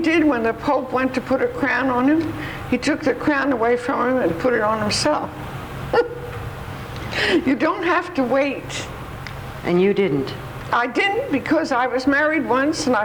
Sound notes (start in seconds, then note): 5.9 laughs